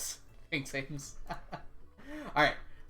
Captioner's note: laughs